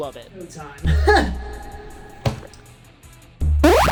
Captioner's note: laughs